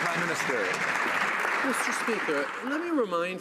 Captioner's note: some Applause